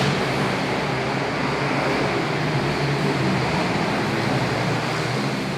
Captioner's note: engines revving